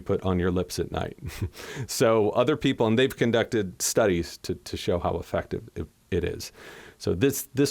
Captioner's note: laughter